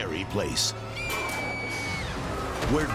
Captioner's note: rider screaming